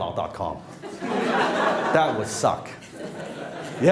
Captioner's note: laughing